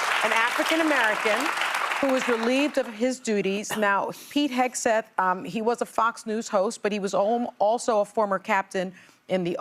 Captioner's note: applause